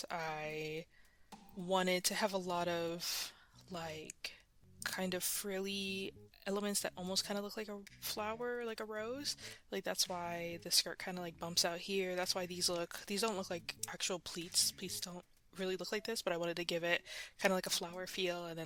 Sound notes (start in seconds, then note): none